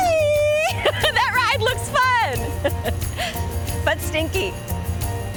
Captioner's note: chuckling; chuckling; playful music continues